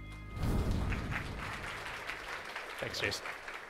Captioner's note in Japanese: 拍手